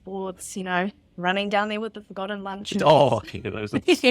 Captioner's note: laughs